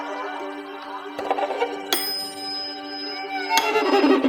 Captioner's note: metronome ticking